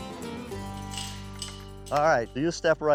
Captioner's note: gate unlocking, clanking